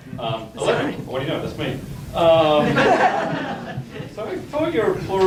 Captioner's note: audience laughs